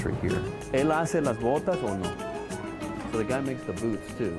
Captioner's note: speaking Spanish